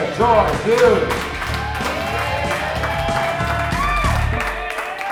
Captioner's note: audience cheering